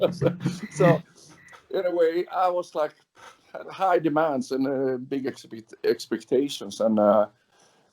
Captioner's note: laughs